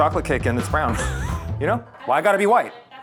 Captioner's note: laughs